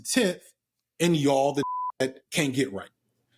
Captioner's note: beep